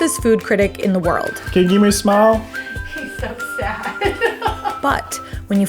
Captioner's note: chuckles